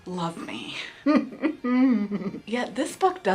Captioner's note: whimpers